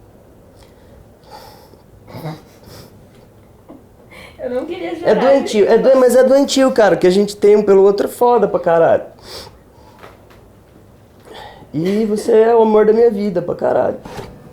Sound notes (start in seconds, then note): 2.0 laughing; 10.8 crying; 11.8 laughing